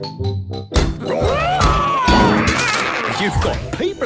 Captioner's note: all roaring